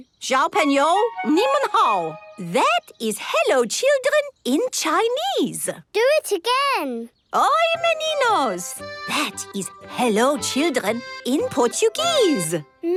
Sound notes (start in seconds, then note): 0.1 speaking Chinese; 7.2 speaking Portuguese